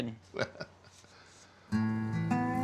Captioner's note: booger's dad chuckles